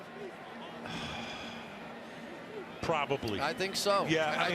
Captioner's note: sighs